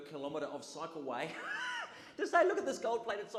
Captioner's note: audience laughs